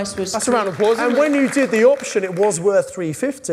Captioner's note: audience applause